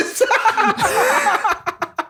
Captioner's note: laughter